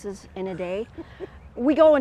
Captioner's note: chuckles